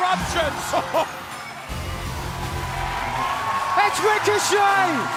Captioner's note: crowd cheering